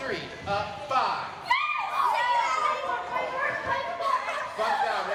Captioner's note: girls exclaiming